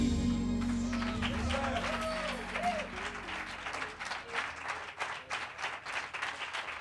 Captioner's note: applause and cheering